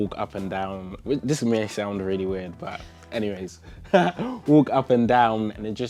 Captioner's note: laughs